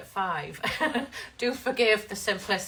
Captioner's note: laughs